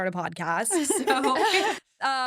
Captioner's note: hosts laugh